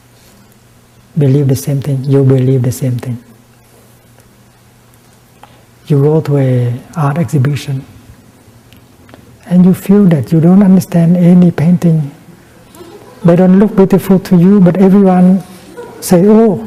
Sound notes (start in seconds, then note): 12.6 giggles